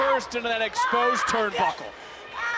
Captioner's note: screams in pain